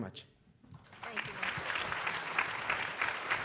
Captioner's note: applause